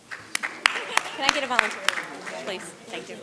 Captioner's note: audience clapping